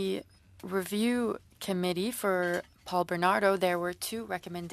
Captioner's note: speaking in French